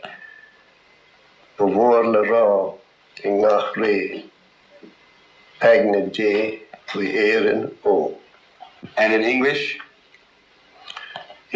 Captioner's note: speaking irish